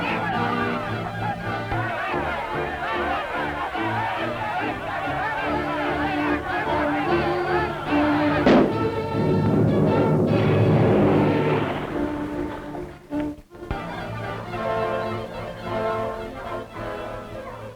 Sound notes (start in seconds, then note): 8.4 gunfire; 8.7 water splashing; 12.7 suspenseful music